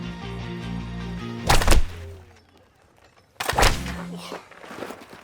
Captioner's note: shovel clattering